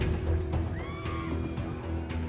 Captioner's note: suspenseful music playing; audience screaming